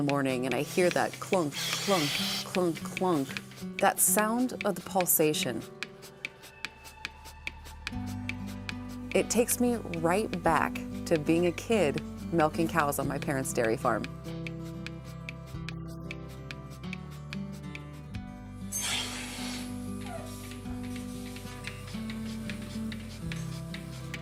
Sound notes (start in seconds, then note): 6.2 pump clicking; 21.1 gentle acoustic guitar music